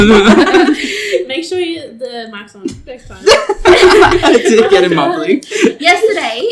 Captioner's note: laughs